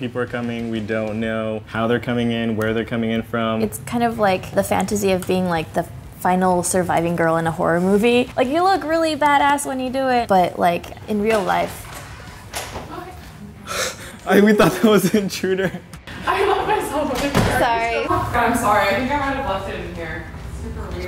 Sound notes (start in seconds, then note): 12.6 door creaks open; 16.1 laughs